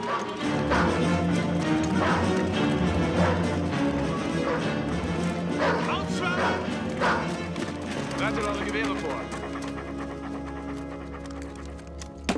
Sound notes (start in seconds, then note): 5.1 dog barking